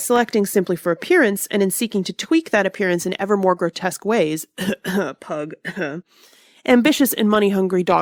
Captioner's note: cough cough pug cough